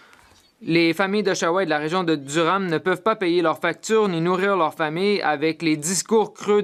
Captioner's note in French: voix de l'interprète